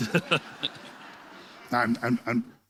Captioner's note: laughter